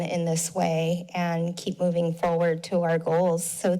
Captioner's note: none